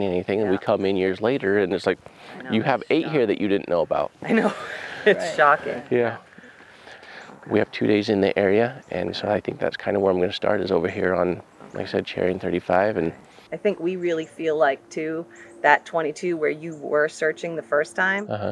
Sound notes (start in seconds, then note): 4.2 chuckling